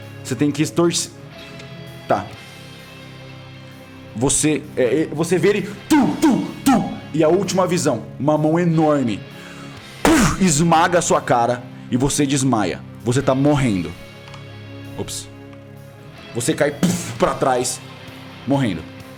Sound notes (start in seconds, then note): 5.9 thump, thump, thump; 17.0 thud